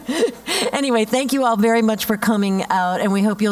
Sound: laugh

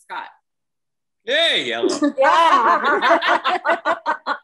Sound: laughs

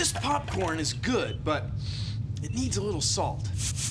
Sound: sniffs

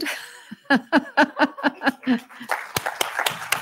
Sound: laughing; applause

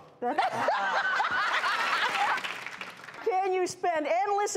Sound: laughing

